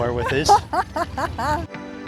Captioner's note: laughs